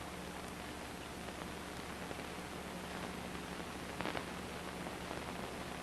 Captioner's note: static